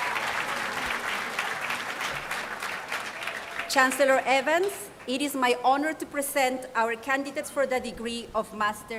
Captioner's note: applause